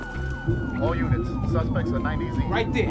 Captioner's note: officer over radio